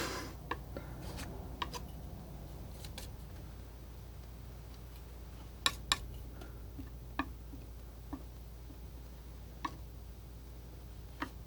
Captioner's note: tapping